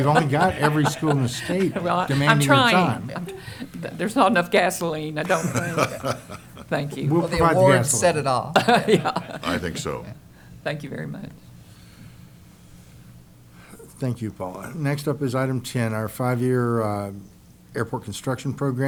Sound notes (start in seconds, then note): 5.2 laughter; 9.1 laughs